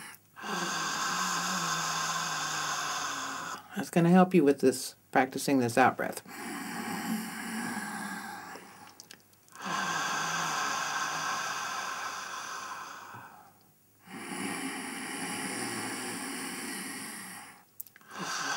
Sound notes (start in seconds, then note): 0.4 sound of exhalation - "Haaa"; 6.2 sound of inhalation - "Hhhhh"; 9.6 sound of exhalation - "Haaa"; 14.4 sound of inhalation - "Hhhhh"